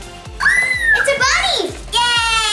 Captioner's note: squeal